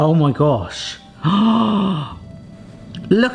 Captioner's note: gasping